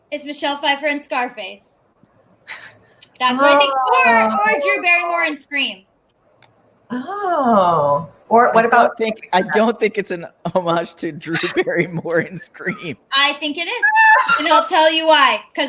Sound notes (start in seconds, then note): 3.4 chuckles